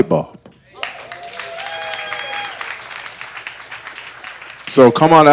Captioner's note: audience cheering and applause